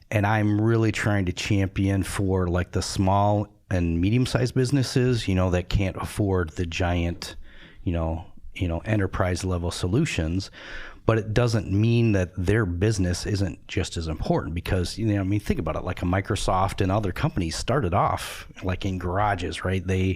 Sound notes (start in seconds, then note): none